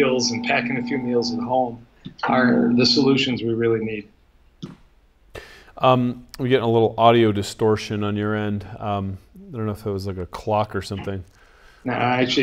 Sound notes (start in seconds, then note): 2.0 low pitched whirring